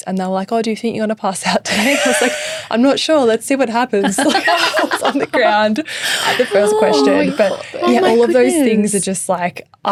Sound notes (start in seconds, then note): 4.0 all laughing